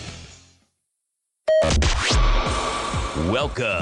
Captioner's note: beep